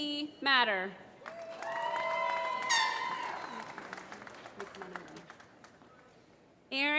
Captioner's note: applause